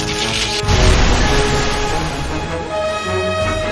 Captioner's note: The Battle Pod Explodes